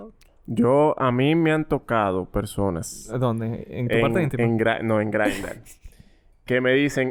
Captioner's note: laughs